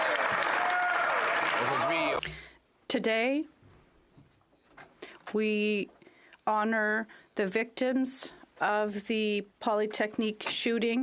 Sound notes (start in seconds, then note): 3.0 some Applause; 10.3 speaking French